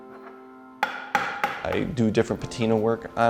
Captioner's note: hammering